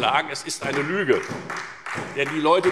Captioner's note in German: Beifall